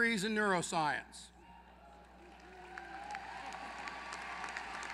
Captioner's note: applause